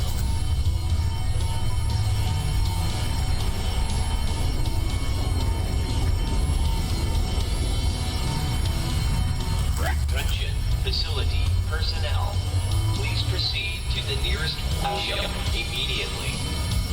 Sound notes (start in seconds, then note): 0.0 alarms & Bells continue in background; 0.8 alarms & Bells